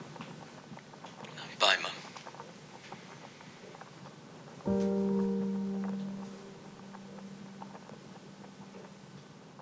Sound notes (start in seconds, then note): 1.0 Jonathan on phone full of emotion